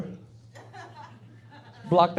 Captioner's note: laughing